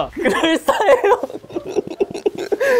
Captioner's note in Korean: 끅끅끅